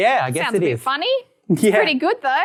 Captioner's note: laughs